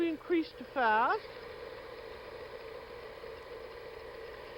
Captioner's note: whirring rapidly